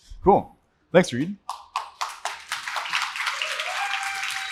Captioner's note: applause